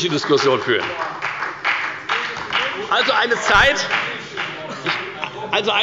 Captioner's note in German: Beifall bei der FDP